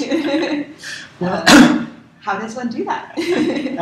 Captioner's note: laugh